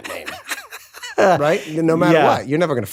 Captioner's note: laughs